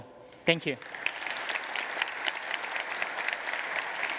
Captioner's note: applause